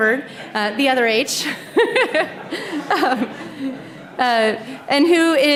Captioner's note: laughter